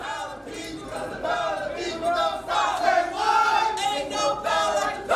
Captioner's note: crowd chanting